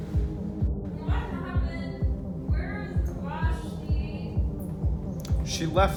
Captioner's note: slurred